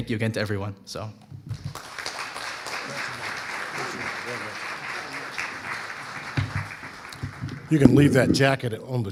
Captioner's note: audience applauding